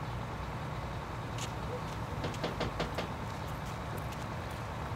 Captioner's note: knocking